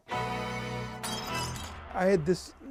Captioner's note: glass shatters